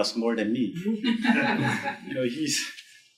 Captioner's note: group laughing